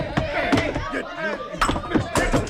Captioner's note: men yelling